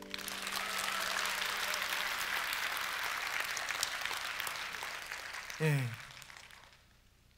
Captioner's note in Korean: 박수와 환호